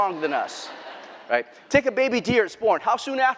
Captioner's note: laughter